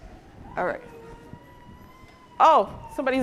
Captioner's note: baby crying in audience